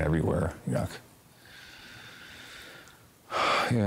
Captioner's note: sighs